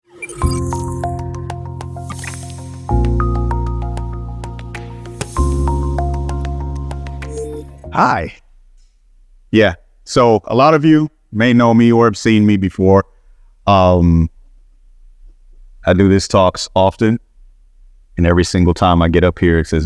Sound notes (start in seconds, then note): 0.1 light upbeat music; 7.3 air whizzing